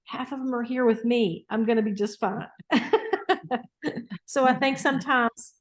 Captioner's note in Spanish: Risas